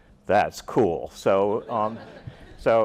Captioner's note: laughter